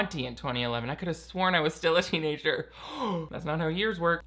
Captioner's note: gasping